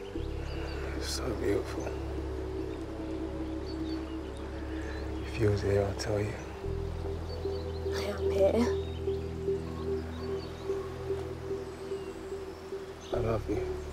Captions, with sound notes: [sighs] So beautiful. If you was here I'd tell you. I am here.